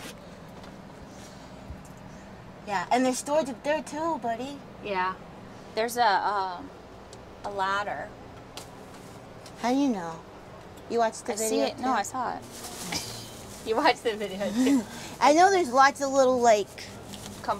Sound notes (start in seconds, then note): 14.4 laughs